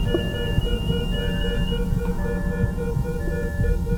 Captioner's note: beeping stops